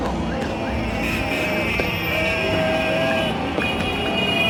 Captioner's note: cheering